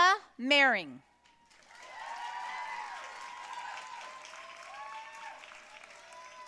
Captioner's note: audience cheering and applauding